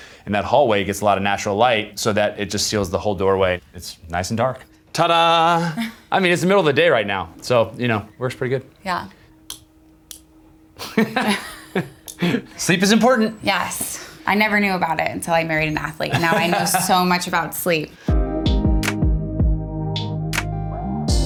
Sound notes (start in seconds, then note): 10.8 Justin laughing; 17.9 chilled music